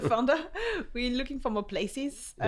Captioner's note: laughs